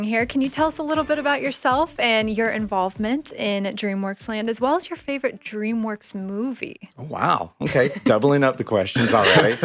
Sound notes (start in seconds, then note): 7.6 chuckling